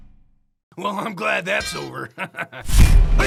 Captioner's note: laughs